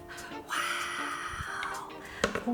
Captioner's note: whispers